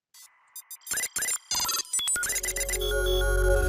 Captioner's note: electronic device beeps; bright music